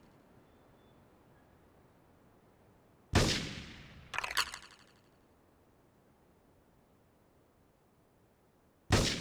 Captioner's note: gun firing